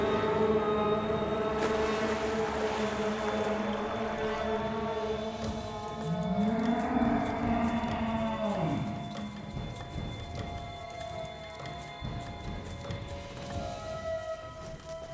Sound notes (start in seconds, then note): 1.0 water splashing; 5.5 suspenseful music